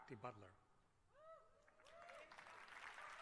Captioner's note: applause